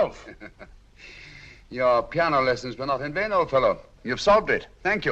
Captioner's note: giggles